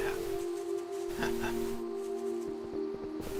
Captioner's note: laughs